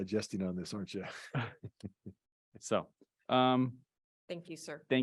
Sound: chuckles

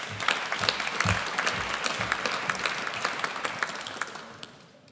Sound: audience applauds

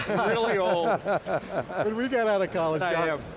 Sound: laughs

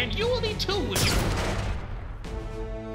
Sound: gun Shot

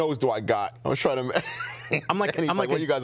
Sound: laughs

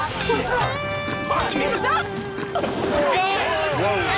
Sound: scuffles

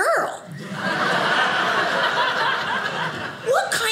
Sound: audience laughing

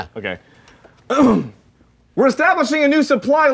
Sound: clearing throat

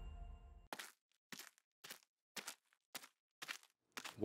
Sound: footsteps

